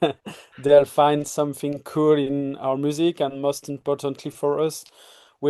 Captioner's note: chuckles